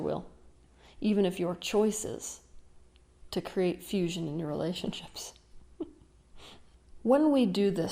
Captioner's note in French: rires